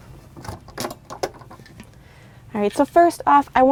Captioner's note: latch clicking